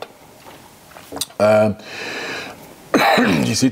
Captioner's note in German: hustet